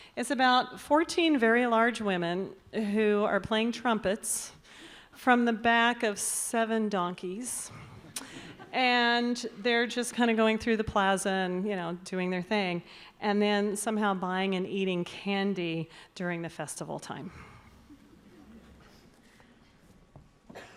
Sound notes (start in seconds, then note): 7.9 audience titters